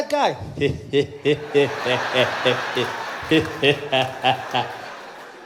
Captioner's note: Zuma laughing